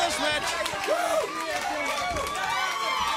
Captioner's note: crowd cheering